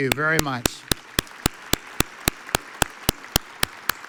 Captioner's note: audience applauds